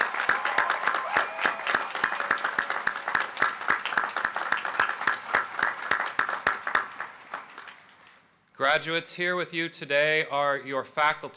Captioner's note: applause